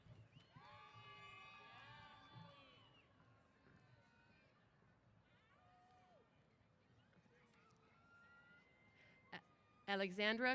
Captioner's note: cheers